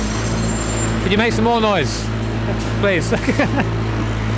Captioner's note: giggling